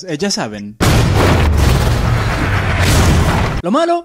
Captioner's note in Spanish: crash